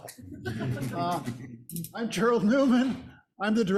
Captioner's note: audience laughs